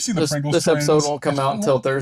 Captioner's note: laughing